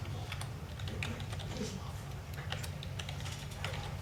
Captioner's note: keyboard tapping